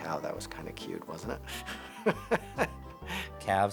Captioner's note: laugh